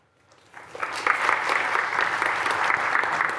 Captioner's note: applause